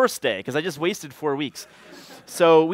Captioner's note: laughter